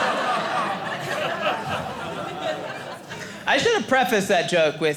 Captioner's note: audience laughing